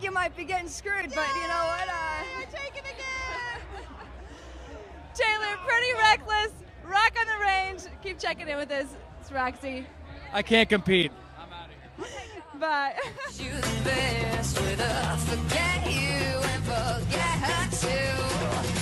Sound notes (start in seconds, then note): 1.9 laughs; 3.1 they all laugh; 12.7 they laugh